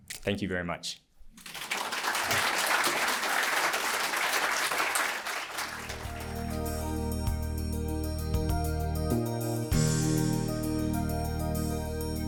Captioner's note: applause